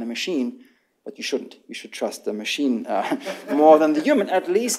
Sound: laughter

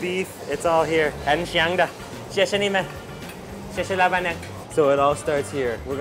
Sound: speaks in Chinese

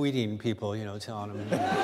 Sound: laughter

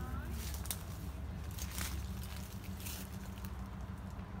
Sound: crackling of branches and leaves underfoot

